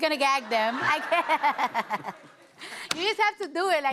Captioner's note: laughs